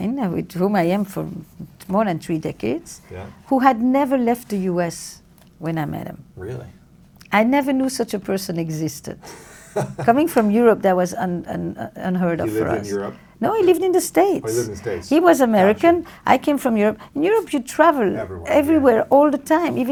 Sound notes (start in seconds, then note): 9.2 laughs